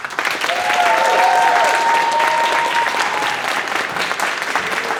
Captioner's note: applause